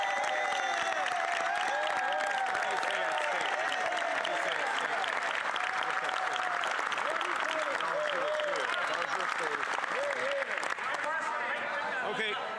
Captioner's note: cheers & Applause